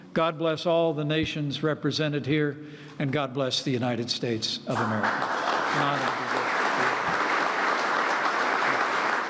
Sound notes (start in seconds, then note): 4.7 applause